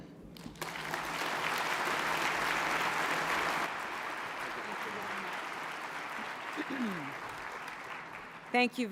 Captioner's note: applause